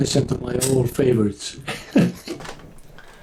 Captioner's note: chuckles